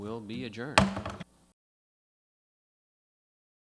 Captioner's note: gavel smacks